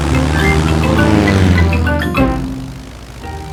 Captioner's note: plane engine revving